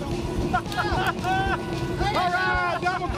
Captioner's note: laughing